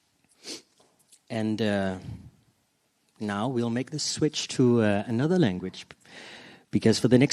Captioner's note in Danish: På engelsk